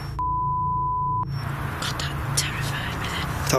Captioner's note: beep